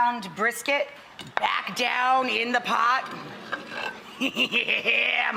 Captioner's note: audience gasps; laughs